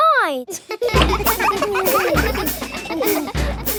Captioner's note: children laughing